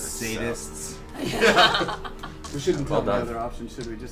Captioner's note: all laugh